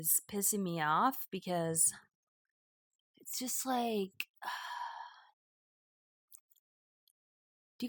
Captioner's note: tense exhale